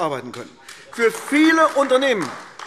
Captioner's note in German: Beifall AfD